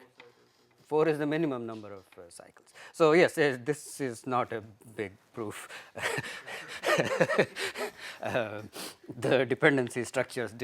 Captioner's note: laughter